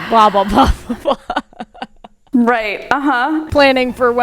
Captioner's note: laughing